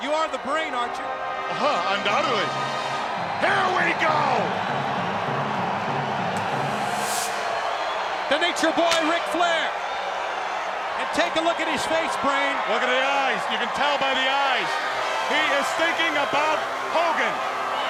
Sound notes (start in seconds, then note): 4.4 crowd cheering; 5.6 motivational instrumental music; 6.7 fireworks hissing